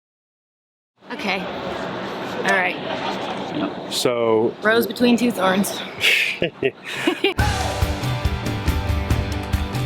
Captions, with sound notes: - Okay. All right. - So... - Rose between two thorns. (laughs) (Upbeat music)